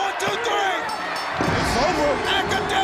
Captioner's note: bell ringing